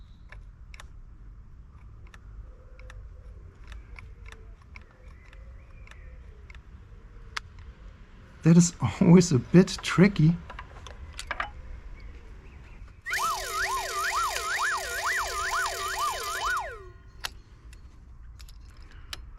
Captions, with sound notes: that is always a bit tricky... [Whirring Sound]